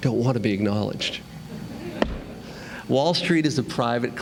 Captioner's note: laughter